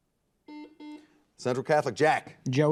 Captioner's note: buzzer beeping